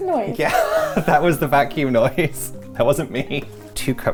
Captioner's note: chuckling